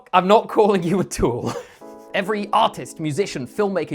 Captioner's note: nervous laugh